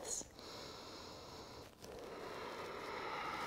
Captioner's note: deep breathing